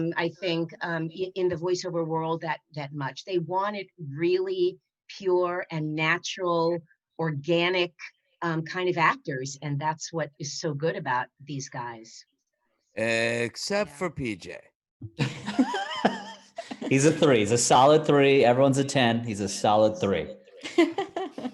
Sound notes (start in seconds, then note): 15.2 all laugh